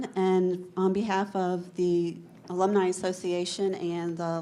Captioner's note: none